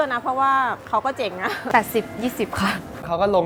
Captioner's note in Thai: หัวเราะ